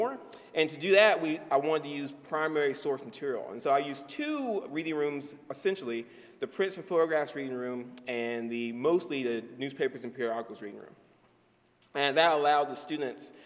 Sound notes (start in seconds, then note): none